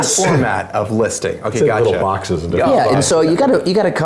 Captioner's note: laugh